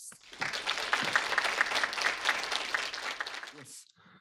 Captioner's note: audience applauding